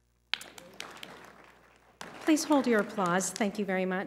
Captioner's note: applause